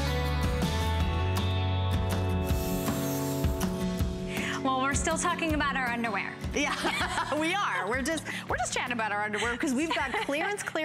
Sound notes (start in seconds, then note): 6.6 laughter